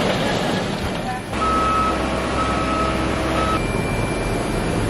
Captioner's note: beeping